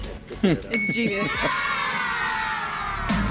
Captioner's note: bell dings; children cheer; energetic music